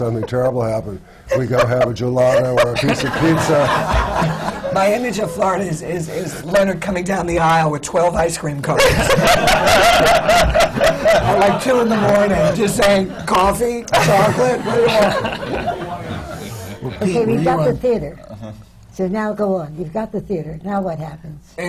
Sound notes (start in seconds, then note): 0.0 laughs; 4.6 laughter; 8.7 laughter